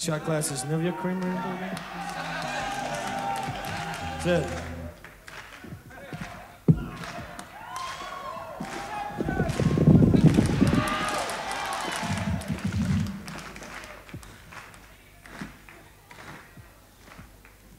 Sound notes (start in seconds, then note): 2.5 audience cheers; 8.4 audience claps rhythmically